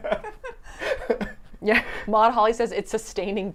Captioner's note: laughing